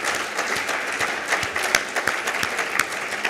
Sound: applause

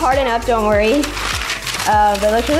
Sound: parchment paper crackling

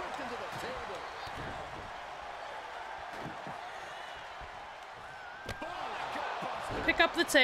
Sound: applause

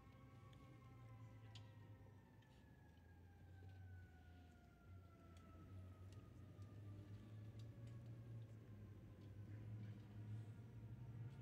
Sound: sirens

